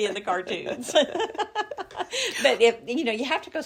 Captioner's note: laugh